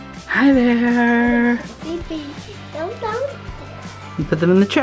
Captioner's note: children babbling